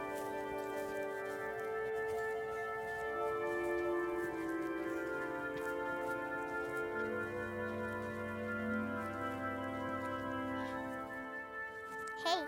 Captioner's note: child cries softly